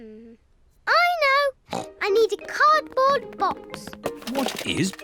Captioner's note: snorts